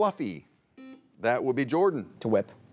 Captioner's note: buzzer beeps